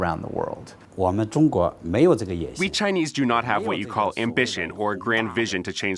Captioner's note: through translator